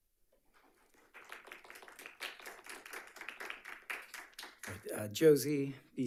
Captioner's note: attendees applauding